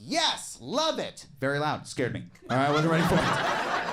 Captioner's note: audience laughs